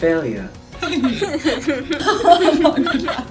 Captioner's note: laughter